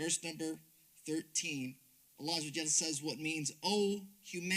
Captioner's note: speaks Arabic